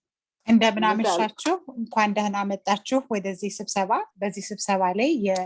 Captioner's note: speaking in foreign language